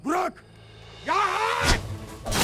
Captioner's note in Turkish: Bağırma sesi